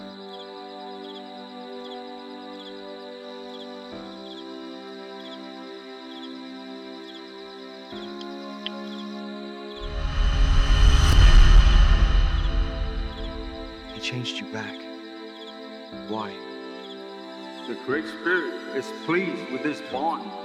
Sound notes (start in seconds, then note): 0.1 peaceful Music Continues; 9.9 otherworldly Ringing